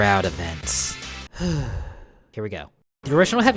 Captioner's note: breathes